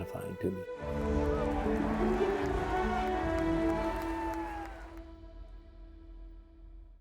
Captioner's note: gentle music; crowd cheering